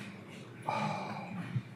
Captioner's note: sighs